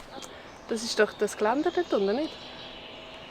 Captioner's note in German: auf Schweizerdeutsch